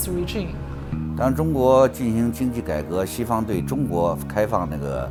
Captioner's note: speaks in Chinese